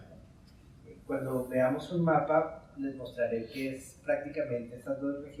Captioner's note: speaking in Spanish